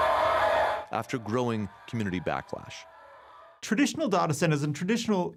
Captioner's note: cheering